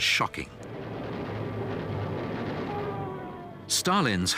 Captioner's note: engine roaring